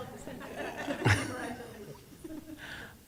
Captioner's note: laughter